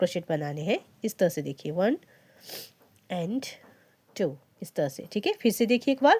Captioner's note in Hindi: नाक से की जाने वाली आवाज़